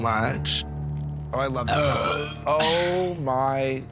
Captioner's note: belch